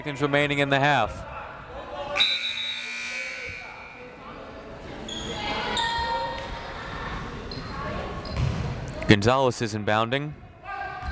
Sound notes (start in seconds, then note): 2.3 buzzer ringing; 4.3 crowd members shouting